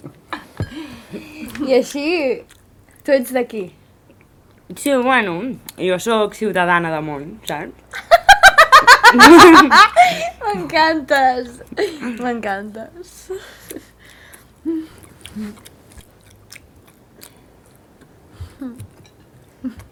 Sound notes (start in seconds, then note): 8.4 laughs